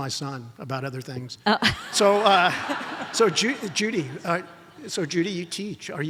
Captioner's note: audience laughs